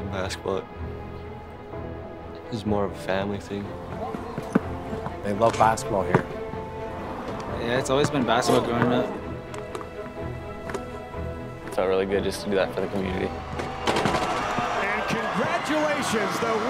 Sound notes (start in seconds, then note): 6.4 voiceover; 10.4 voiceover; 12.7 voiceover